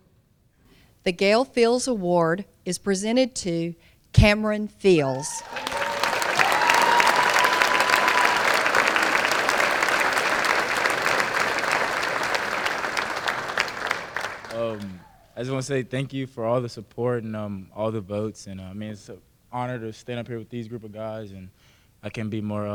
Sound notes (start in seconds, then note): 6.9 applause